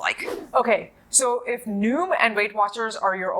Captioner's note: air whooshes